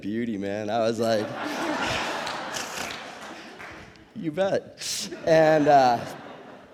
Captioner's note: audience laughs